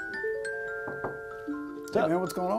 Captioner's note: knocking